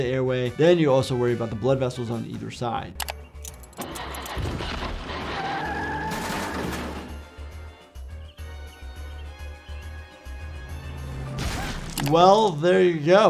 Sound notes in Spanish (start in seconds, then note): 5.5 chirrido de neumáticos; 6.9 música dramática